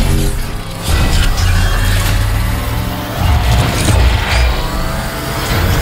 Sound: multiple weapons charging simultaneously

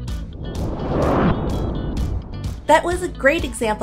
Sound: logo whooshes

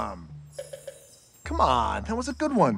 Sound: clinking

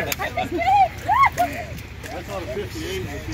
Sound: screaming

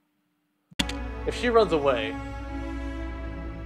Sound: spacebar click

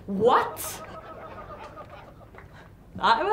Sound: audience laughs

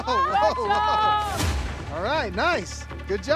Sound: crowd cheering

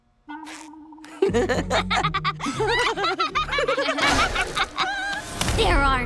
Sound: laughing

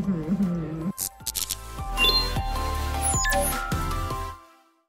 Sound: fizz, blip

